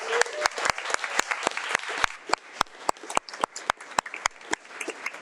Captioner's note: audience applauding